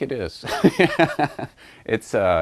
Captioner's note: laughs